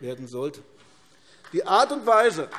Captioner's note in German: Beifall AfD